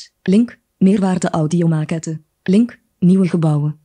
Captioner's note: speaks in foreign language